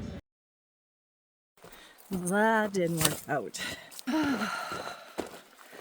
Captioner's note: sigh